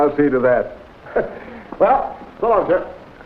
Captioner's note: Dick chuckles